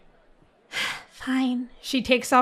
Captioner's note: sighs